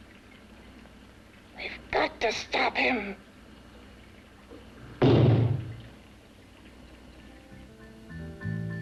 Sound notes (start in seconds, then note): 5.0 bangs on door; 7.7 burlesque music